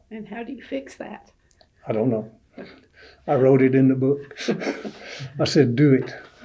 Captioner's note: laughter